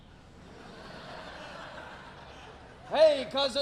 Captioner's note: audience laughing